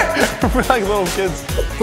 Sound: laughter

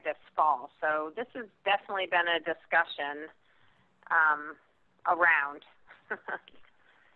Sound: laughs

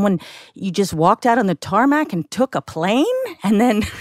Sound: laughs

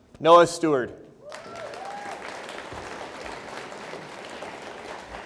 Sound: audience applauds

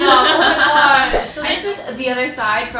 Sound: thwip sound

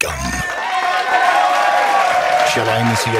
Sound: audience cheer

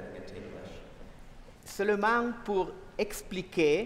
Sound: speaking french

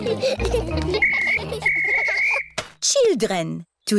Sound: blows whistle

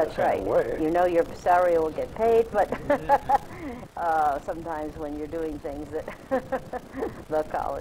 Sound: laughs

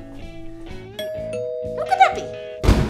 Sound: SFX: Door bell

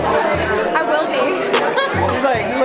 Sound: laughs

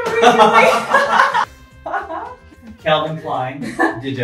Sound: laughs

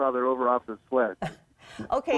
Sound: laughter

